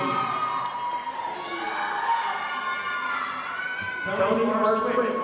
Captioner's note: audience applauding